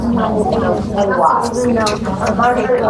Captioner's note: students talking